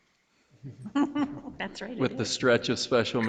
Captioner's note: laughs